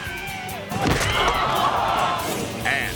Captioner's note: head thuds